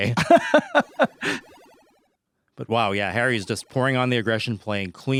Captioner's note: laughing